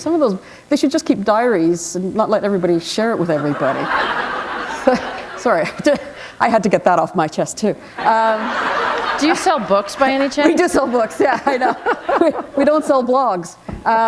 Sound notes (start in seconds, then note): 8.0 laughter